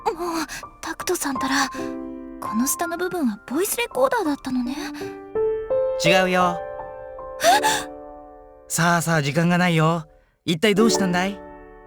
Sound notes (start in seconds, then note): 7.4 gasp